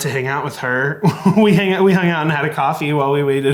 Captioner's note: laughing